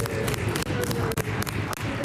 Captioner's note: applause